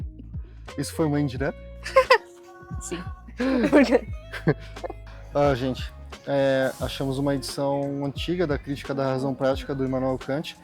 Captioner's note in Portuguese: risadas